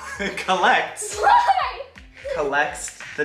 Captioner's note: laughing